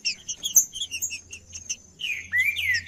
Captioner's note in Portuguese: trinca ferro cantando